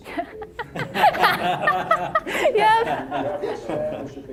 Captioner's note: all laughing